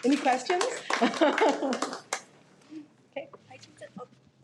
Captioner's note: laughs